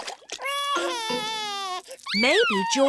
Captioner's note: cries